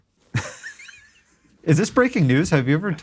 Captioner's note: laughs